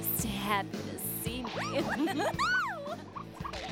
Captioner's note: giggling